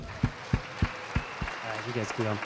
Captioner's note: applause